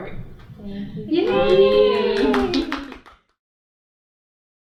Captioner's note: applause